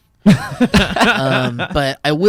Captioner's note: laughs